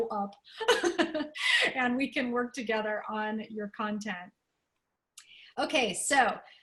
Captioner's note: laughter